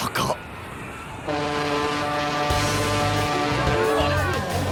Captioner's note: ship horn blaring; people on the beach going crazy